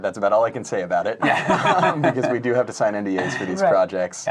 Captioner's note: laughing